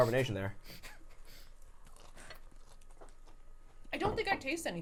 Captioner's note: crunching